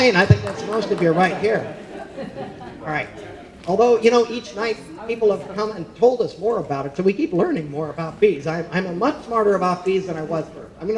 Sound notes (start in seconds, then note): 0.3 audience laughing